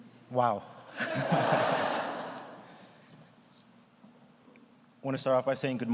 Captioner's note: laughs; audience laughs